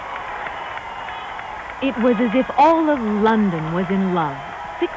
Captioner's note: crowd cheers and applauds